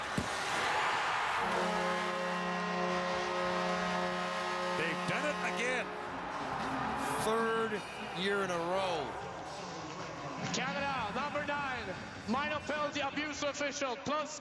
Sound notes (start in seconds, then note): 4.2 cheering; 5.2 horn